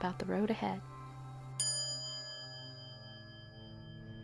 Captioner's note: quiet chime